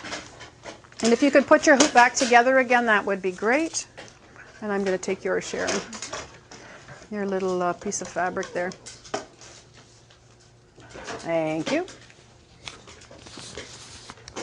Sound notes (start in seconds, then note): none